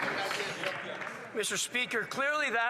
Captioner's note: some Applause